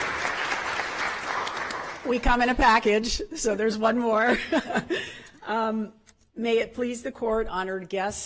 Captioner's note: applause